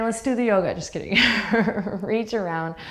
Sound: laughs

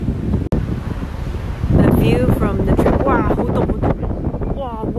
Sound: Cantonese

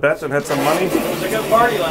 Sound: toilet flushing

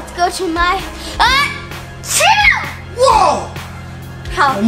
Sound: sneezing

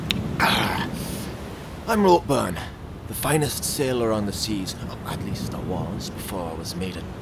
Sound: gulp-sigh

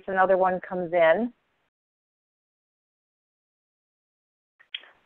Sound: long silence

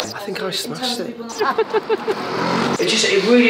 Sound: laughing

